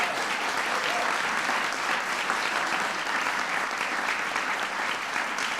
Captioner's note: applause